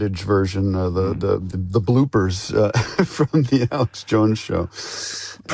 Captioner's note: laughs